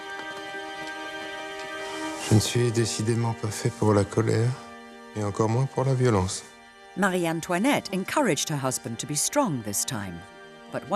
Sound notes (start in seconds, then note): 2.4 Louis XVI speaking in French